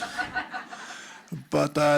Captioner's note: audience laughs